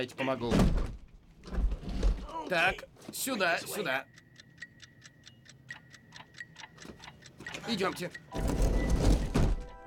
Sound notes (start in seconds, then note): 3.1 clock ticking